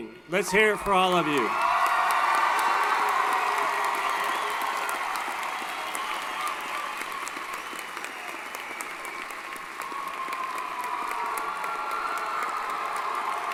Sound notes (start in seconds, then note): 2.2 applause & Cheering